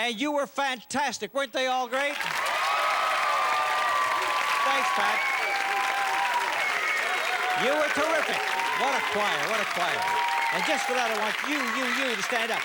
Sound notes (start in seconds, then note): 2.2 cheers and applause; 5.7 cheers and applause